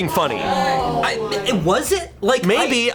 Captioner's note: colleagues gasping